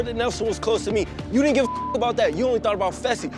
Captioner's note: beep